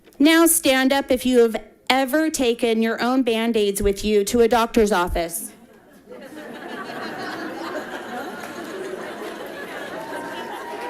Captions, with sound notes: Now stand up. If you have ever taken your own bandaids with you to a doctor's office. (audience laughing)